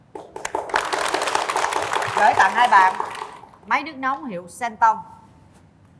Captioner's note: applause